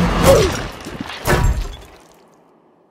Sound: smack

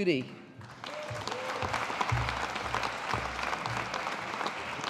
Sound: audience applauding

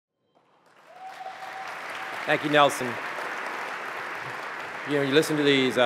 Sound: applause

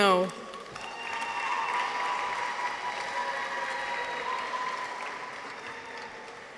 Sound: audience applauds; people cheer

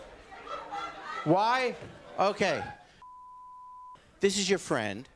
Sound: beep

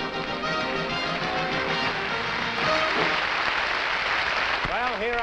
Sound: applause

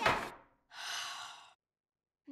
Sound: sighing

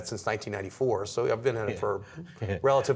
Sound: laughter

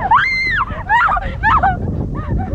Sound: Alexie screams

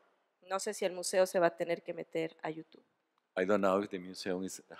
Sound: speaking spanish

